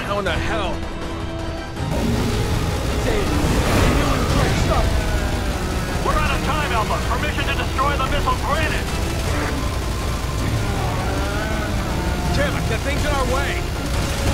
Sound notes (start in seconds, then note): 3.5 gun firing; 3.5 monster roaring